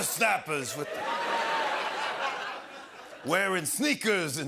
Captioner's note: laughter